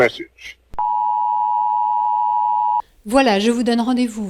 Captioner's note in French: Bip en continu